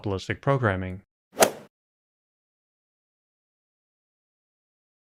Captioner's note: golf ball hit sound